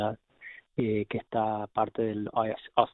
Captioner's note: speaking Spanish